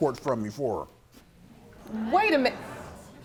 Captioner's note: audience murmuring